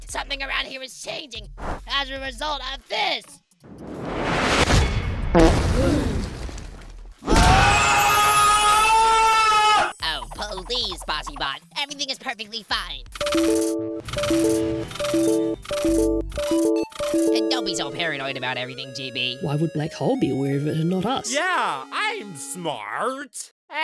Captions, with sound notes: something around here is changing, as a result of THIS! [CROWD GASPS] [SCREAM] Oh, puh-LEASE Bossy Bot! Everything is perfectly fine. …Don’t be so paranoid about everything, GB. Why would Black Hole be aware of it and not us? Yeah! I’m smart!